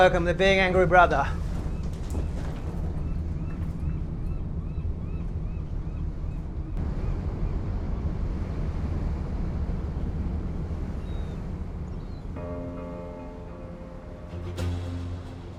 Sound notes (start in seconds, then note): 2.9 dramatic music; 6.8 birds chirping; 7.8 dramatic music; 8.8 waves crashing; 9.5 birds chirping; 11.9 dramatic music